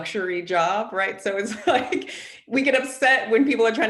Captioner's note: chuckles